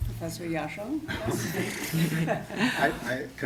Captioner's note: laughter